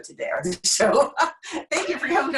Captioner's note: laughing